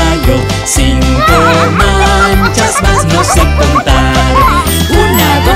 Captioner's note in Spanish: Sonido de cacareo